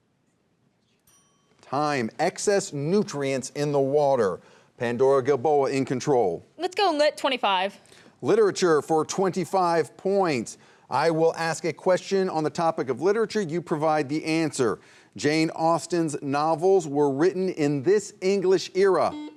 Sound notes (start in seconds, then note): 0.6 students whispering; 1.0 bell dinging